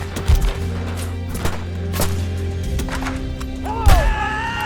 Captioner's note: dramatic orchestral music; guns firing; outlaw roaring